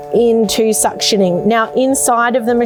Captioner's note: sealer buzzing